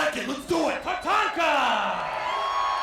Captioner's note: applause